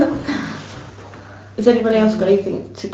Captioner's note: giggles